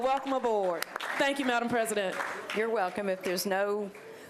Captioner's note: applause